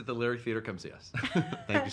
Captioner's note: laughing